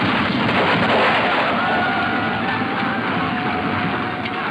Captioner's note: guns roaring